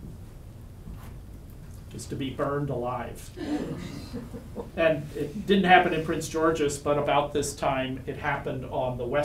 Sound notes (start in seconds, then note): 3.4 audience gasps